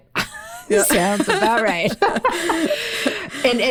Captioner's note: laughing